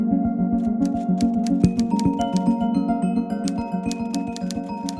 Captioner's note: letters clicking